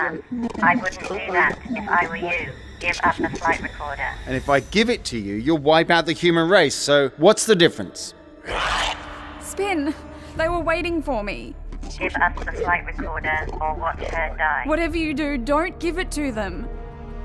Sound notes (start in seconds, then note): 8.4 Gray growls